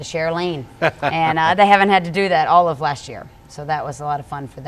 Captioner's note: laughter